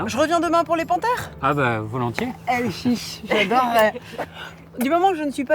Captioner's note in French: rires